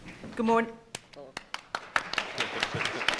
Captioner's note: applauding